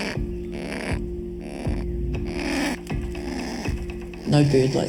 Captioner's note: kākāpō grunting